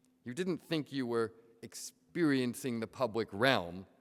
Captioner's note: none